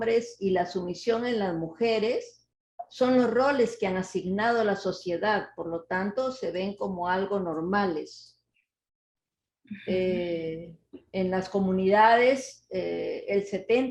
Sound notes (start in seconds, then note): 1.0 speaking Spanish